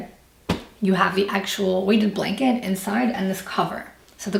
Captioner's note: patting